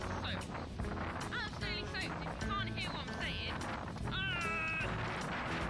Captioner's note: arrrghhhh